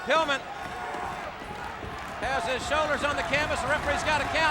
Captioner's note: hands thudding